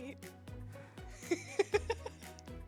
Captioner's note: laughing